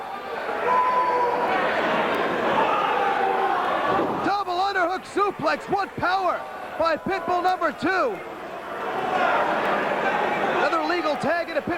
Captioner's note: crowd cheering